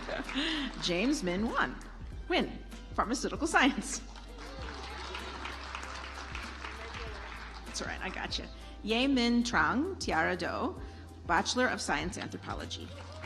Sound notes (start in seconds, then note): 0.0 audience applauds; 4.1 audience applauds